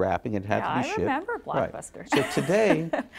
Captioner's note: laughs